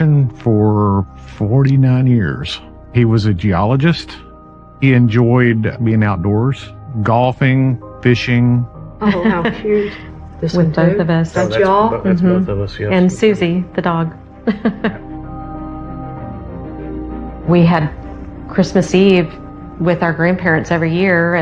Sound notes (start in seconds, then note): 14.4 chuckling; 15.0 mysterious melody building